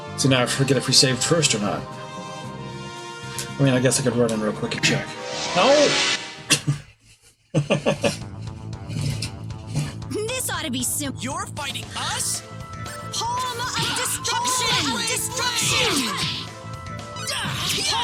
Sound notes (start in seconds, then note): 7.5 laughs